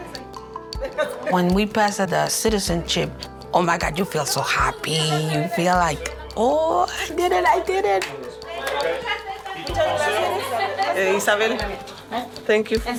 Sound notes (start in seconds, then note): 8.8 class chatting in Spanish